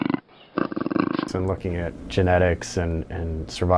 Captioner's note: mountain lion purring